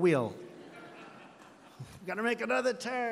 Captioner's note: laughter